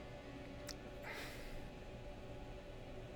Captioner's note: sighs